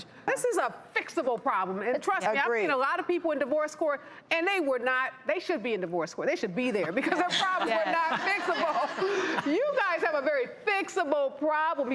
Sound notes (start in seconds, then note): 7.0 laughing